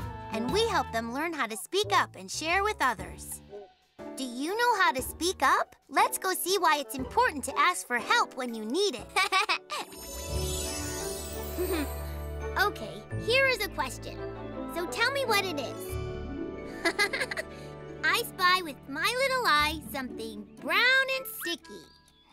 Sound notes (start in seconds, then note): 9.1 giggles; 11.6 chuckles; 16.7 chuckles